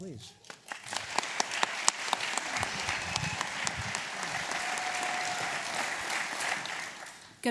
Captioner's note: applause